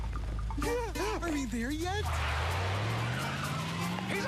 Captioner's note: laughs